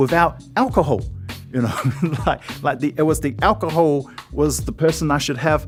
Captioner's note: chuckles